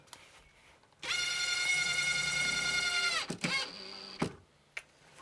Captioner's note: drill whirring